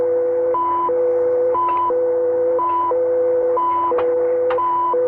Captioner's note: switches clicking